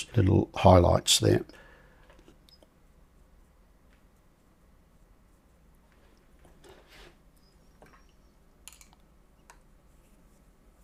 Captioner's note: silence